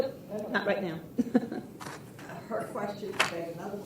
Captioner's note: chuckles